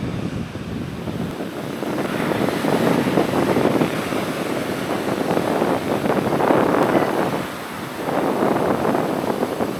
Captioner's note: sound of wild blowing near the sea